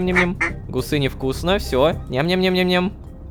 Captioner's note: goose finishes eating